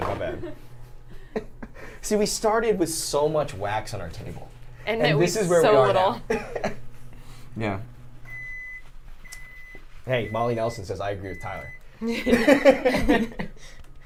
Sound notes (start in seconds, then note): 1.4 laughs; 6.2 laughs; 7.8 microwave beeping; 12.0 Saf laughs